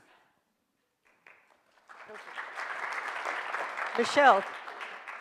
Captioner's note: audience applauds